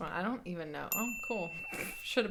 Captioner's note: bell dings